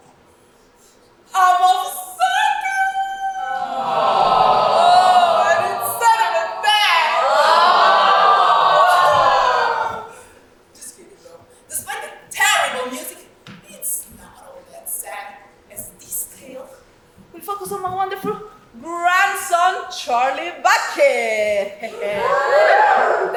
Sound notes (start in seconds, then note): 2.1 cries; 3.0 audience awwws; 8.3 audience awwws louder; 19.4 audience cheers